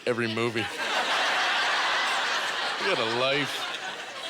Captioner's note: audience laughter